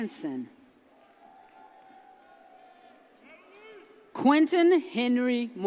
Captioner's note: audience cheers